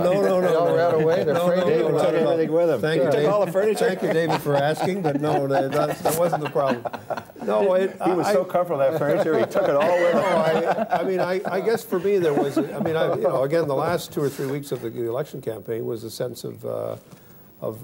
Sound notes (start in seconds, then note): 0.3 laughter; 6.5 mixed voices